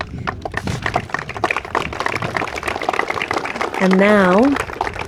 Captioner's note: audience claps